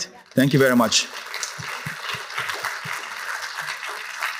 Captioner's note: applause